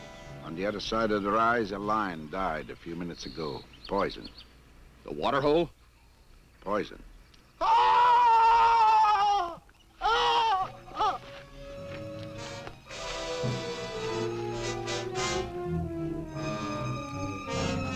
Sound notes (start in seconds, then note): 7.7 man shrieking; 10.6 tense orchestral music